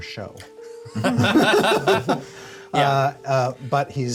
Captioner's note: laugh